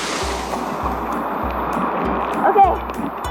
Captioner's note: water splashing